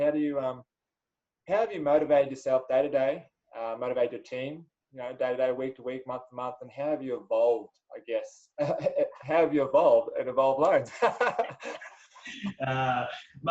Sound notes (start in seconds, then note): 8.6 chuckles; 10.7 both laugh